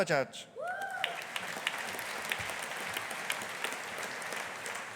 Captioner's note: audience applauding